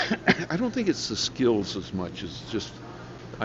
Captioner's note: coughing